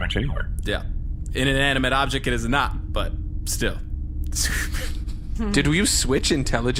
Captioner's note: laughing